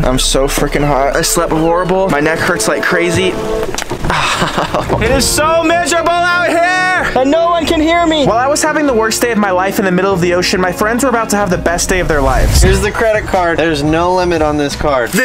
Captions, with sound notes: I'm so freaking hot, I slept horrible, my neck hurts like crazy. (neck cracks) (groans) It is so miserable out here! And no one can hear me. While I was having the worst day of my life in the middle of the ocean, my friends were about to have the best day of their lives. - Here's the credit card. There's no limit on this card.